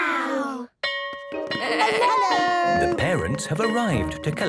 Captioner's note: bell ringing